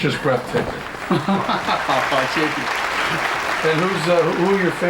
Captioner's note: non-english speech